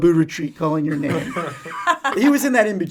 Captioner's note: all laughing